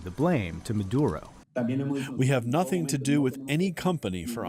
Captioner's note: through translator